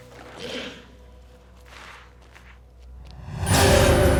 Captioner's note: footsteps shuffling; intense music